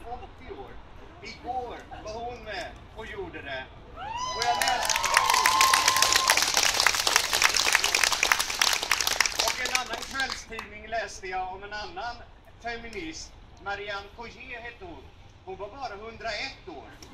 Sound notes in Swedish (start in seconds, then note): 4.0 Jubel och applåder